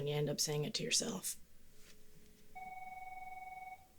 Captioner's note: phone rings